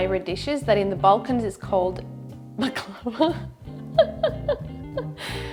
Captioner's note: laughs